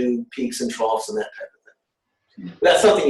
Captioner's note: audio warps